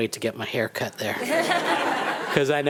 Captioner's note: attendees laughing